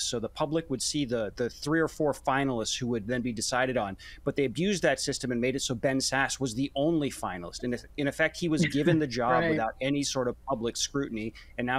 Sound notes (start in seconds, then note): 8.6 laughs